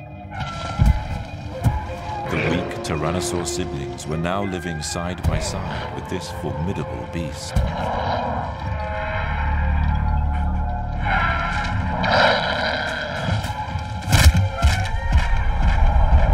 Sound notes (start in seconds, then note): 9.0 screeching